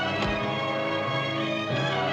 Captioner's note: fist thuds